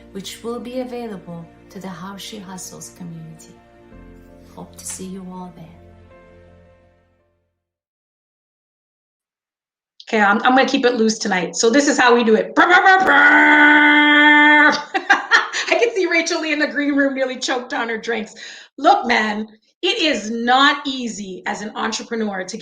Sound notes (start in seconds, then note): 6.3 soft music; 12.6 laughing; 13.0 humming